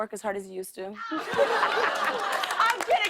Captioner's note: laughter